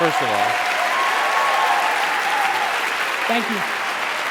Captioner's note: cheering and applauding